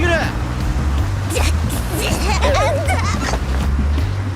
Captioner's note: boink!